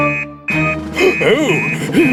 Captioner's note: fax Machine Beeps